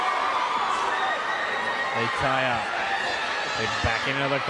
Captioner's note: crowd cheering